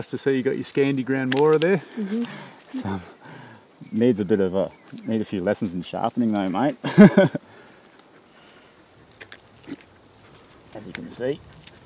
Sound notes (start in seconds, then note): 6.7 laughing